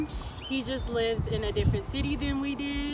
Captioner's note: birds chirping